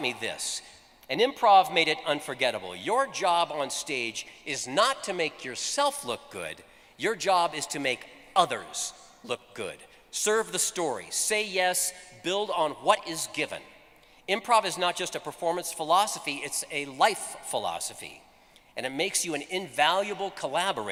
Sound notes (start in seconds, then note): none